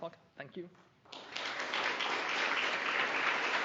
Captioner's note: applause